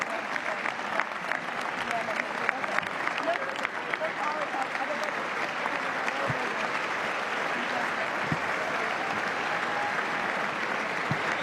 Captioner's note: applause